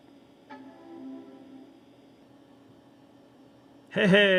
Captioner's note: computer chimes softly